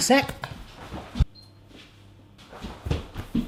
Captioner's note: oven beeps